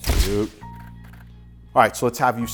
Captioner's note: shutter clicks